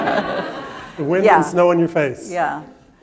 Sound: laughter

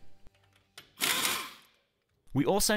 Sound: air-powered rattle gun

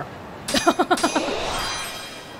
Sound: chuckles

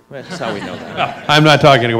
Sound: laughs

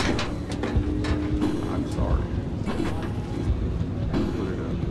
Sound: metal clangs

